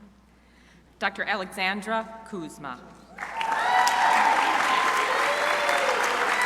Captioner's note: crowd applauding